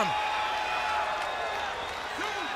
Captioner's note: crowd cheering